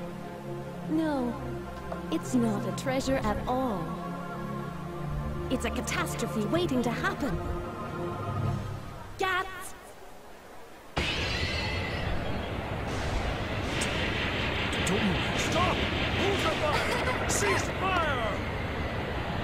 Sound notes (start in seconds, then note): 11.0 crashing glass, whirling wind; 13.5 gunfire